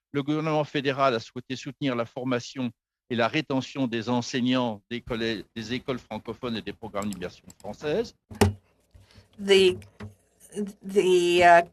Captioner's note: speaking French